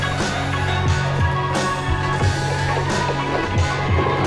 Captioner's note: siren wailing